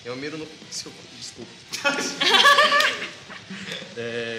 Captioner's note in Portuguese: Risadas